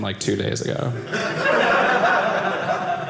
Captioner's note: audience laughing